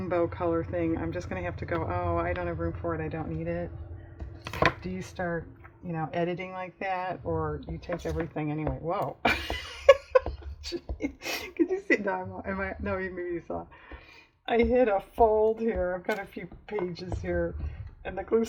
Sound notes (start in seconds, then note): 9.2 laughs